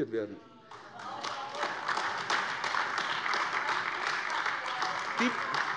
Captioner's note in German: Beifall AfD